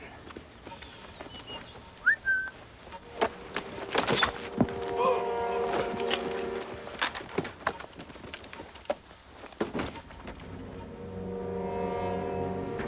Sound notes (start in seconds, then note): 1.3 whistles; 4.9 soldier Groans